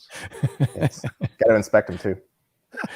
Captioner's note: laughing